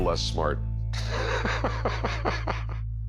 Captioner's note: laughs